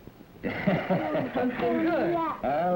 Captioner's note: laughter